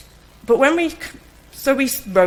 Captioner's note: stutters